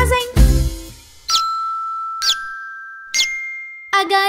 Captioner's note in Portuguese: som de pintinho; som de galinhazinha